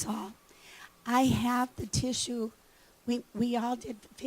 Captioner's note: none